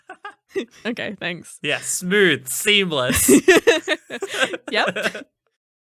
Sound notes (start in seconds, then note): 1.8 laughing